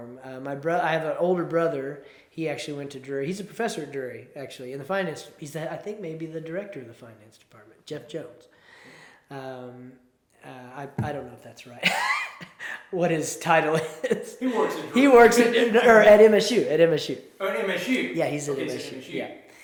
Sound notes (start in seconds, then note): 11.8 laughs